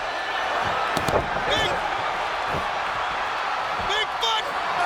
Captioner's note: crowd cheering; Ric Flair thudding